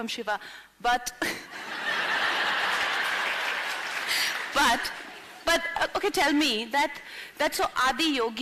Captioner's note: laughter